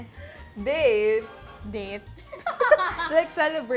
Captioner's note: laughs